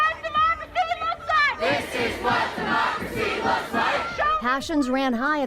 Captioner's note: crowd